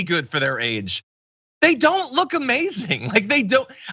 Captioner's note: laugh